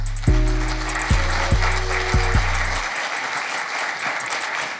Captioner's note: audience clapping